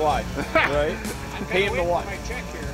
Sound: laughter

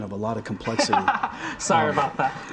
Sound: laughing

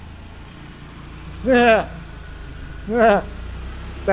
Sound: chuckling

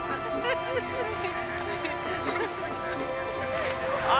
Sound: laughter

